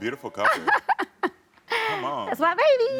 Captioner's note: laughing